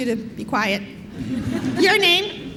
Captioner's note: laughter